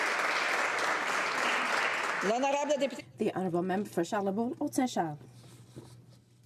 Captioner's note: some Applause